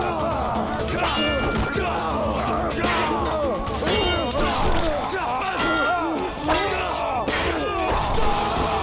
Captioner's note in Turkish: Bağırma sesleri; Kılıç sesleri